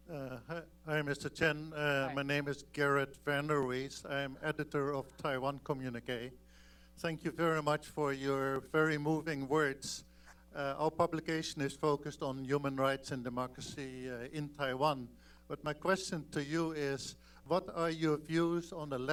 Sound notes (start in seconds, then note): 1.5 chinese 01:02:44